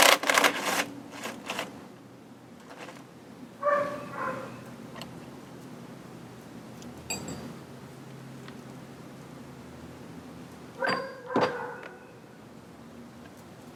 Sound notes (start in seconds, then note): 0.0 drill rattles; 3.6 dog barks; 7.1 metal clunks